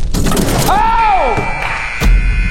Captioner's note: flaming sound; dunk sound; buzzer